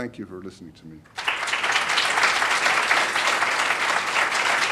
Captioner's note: applause